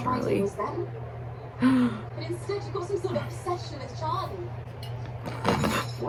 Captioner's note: me gasping lol